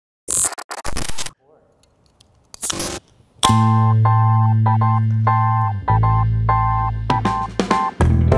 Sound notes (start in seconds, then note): 2.6 can hisses; 3.4 relaxed music